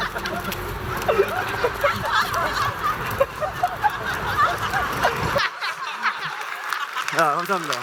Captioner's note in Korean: 웃음